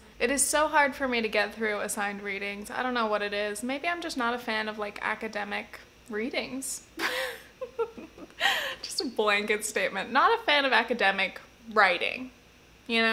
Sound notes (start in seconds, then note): 7.0 giggles